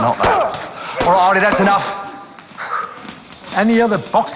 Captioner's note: groans